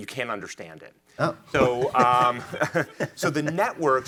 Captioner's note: chuckles